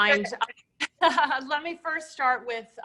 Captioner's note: laughing